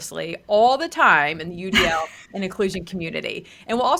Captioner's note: laughs